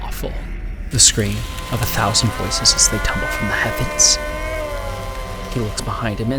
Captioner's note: moaning